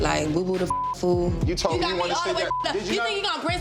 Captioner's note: beep